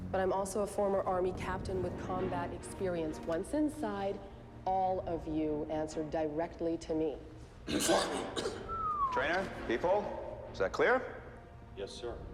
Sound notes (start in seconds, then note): 7.6 coughs mockingly